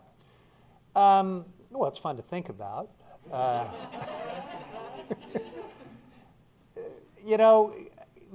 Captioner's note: laughter